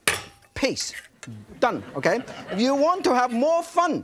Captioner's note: audience laughing